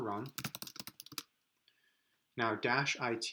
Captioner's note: typing